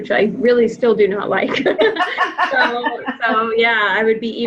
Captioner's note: laughing